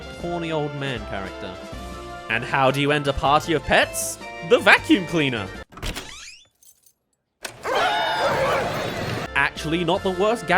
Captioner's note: vacuum cleaner